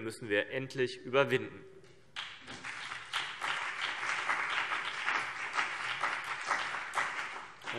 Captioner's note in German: Beifall CDU und BÜNDNIS 90/DIE GRÜNEN